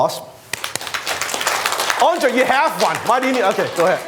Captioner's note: applause